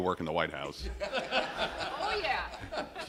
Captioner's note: laughter